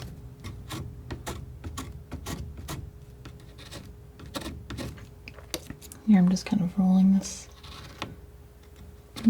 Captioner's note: scratching